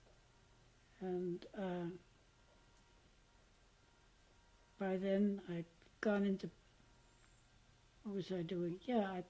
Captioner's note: pauses for 3 seconds